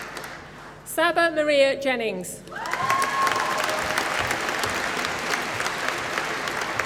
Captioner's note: applause